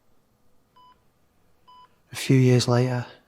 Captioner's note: life support beeps